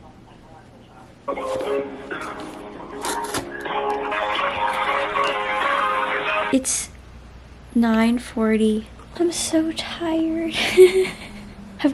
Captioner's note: laughs